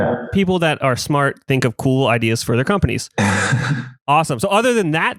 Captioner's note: laughs